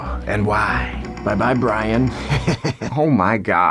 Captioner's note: chuckles menacingly